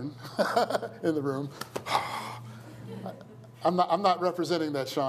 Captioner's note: laughs; exhales deeply